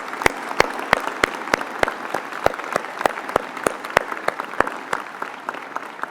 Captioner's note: applause